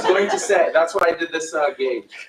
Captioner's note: laughter